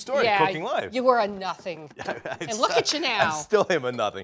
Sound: laughing

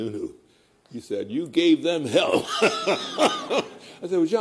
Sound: laughter

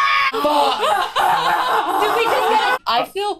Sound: sobbing

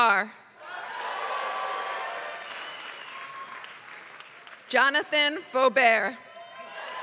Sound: applause; applause

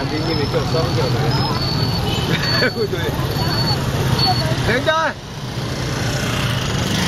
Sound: laugh

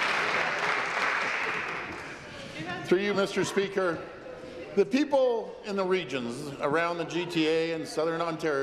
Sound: some Applause

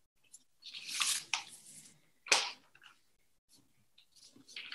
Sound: papers rustling

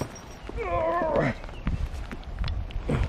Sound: grunt

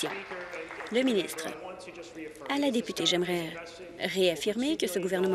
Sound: applause

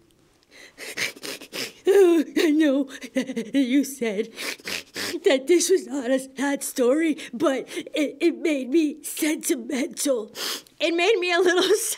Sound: crying

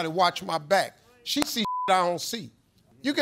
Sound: beeps

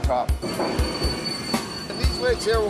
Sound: metal squealing

